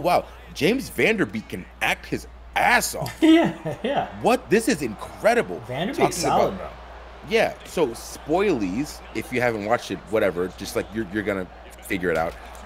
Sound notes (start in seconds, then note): 3.0 laugh